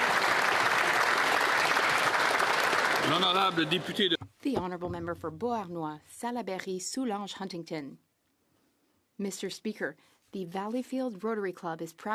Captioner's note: some Applause